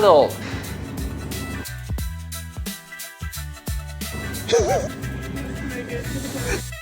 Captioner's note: laughs